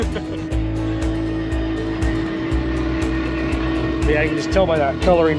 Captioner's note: horn blaring